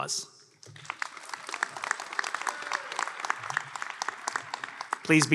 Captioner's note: applause